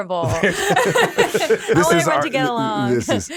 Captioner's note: laughing